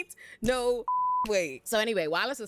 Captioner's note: beep